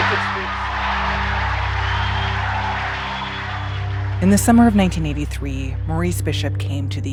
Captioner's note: soundbite of crowd cheering